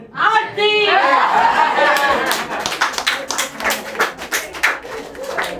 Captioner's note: everyone cheers and claps